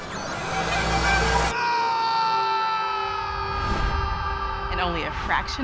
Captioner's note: man screaming